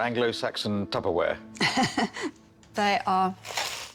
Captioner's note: laughs